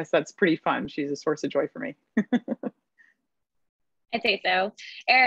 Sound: laugh

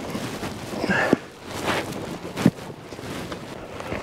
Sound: panting

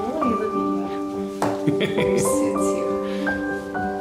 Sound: laughter

